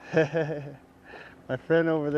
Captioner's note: laughter